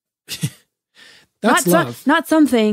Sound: laughs

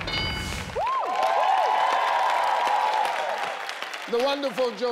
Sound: crowd cheering

